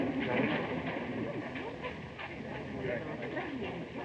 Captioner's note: people chattering excitedly